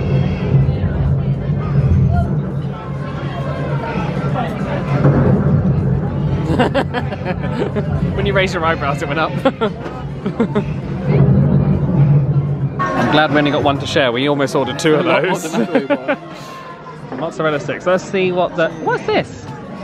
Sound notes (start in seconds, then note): 0.3 elephant trumpets; 5.5 thunder booms; 6.4 laughs